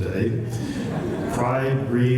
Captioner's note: laughter